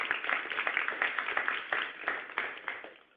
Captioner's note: applause